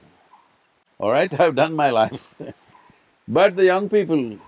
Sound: laughs

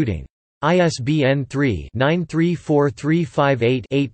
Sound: in German

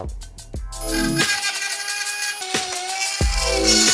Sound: drilling sound

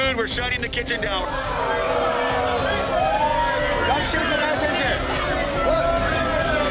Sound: boos

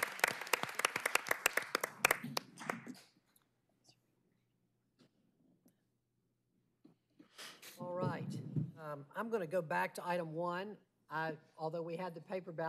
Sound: applause

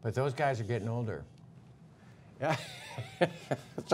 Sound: laughter

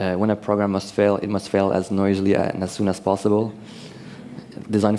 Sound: none

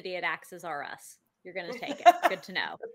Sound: laughs

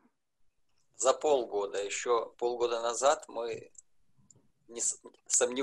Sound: speaking foreign language

